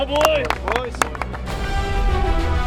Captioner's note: applause; triumphant music